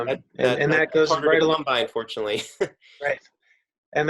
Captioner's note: laughs